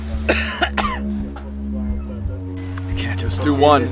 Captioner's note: coughing